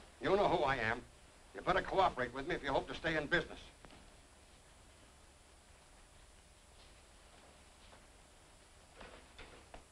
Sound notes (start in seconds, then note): 3.9 rain pattering